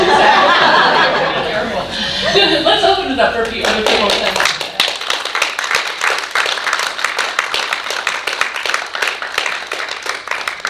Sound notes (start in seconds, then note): 0.0 audience laughing; 3.6 audience applauding